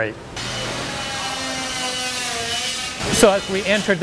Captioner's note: saws grind